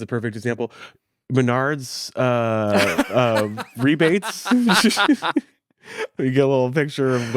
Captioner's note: both chuckling